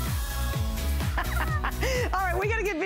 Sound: laughter

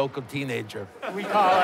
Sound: laughter

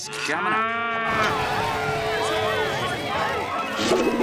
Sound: mooing, cheering

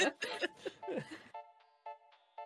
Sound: laughing

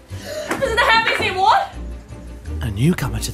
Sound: gasps

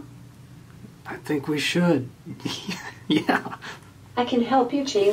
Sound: laughing

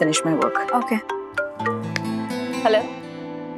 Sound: mobile phone ringing

